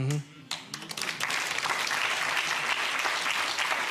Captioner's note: clapping